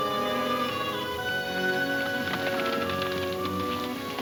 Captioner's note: hooves slowing